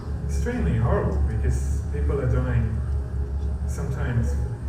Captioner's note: voiceover